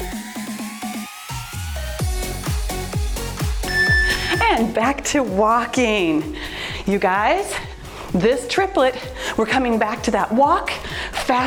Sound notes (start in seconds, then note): 3.6 timer beeps